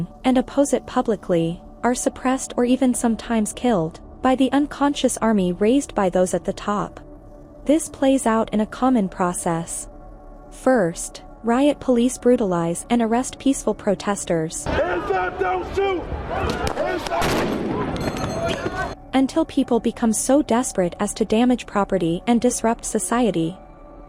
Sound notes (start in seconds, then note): 16.5 tear gas container explodes